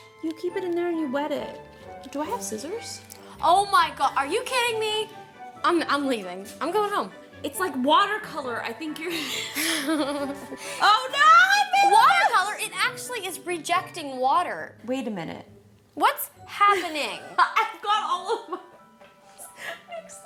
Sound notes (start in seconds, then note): 9.2 both laugh; 17.2 laughing